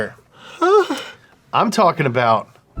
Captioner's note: signs faintly